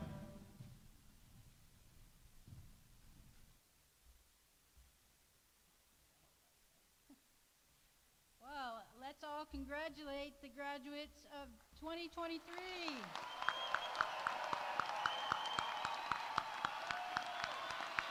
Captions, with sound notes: Well, let's all congratulate the graduates of 2023. (audience cheering)